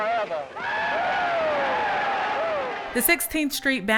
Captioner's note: audience cheering